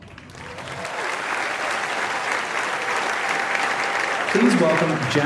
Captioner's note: applause